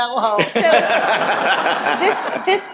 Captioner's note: laughter